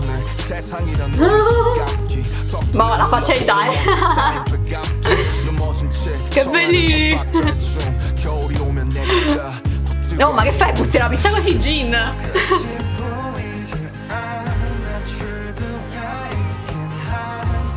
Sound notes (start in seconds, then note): 2.6 giggles; 11.7 offended in Italian